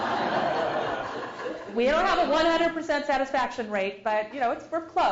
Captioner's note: laugh